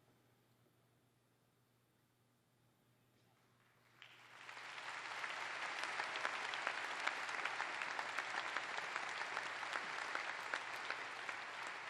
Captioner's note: applause